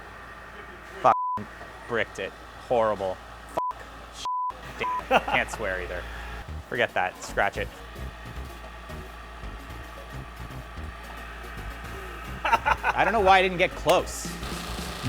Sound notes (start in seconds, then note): 1.1 beep; 4.8 beep; 11.8 laughing